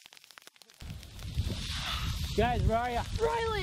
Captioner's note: crackling